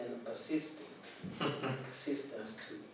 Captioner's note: laughs